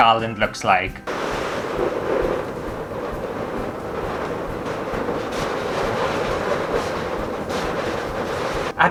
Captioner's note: balloon Sounds